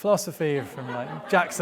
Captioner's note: audience laughing